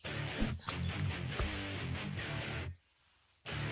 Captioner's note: body thud